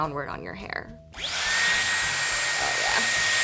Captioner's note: dryer whirs